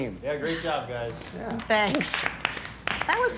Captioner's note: audiuence clapping